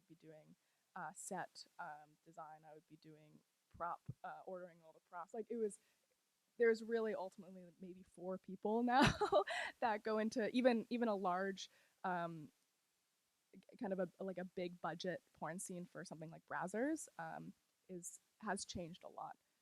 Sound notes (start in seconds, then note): 9.0 laughs